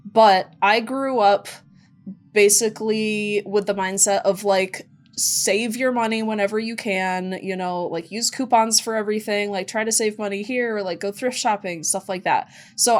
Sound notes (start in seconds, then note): none